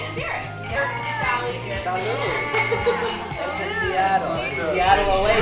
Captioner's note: glasses clinking and cheers